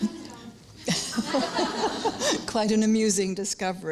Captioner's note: laughter